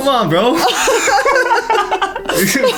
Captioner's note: laughing